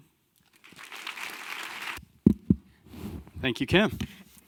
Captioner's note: audience clapping